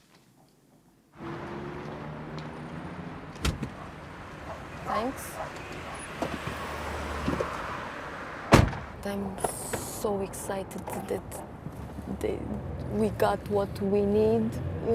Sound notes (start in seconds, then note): none